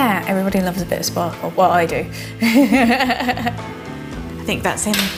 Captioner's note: laughs